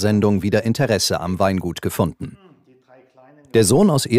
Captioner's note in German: none